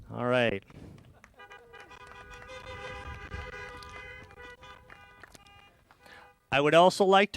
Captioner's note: applause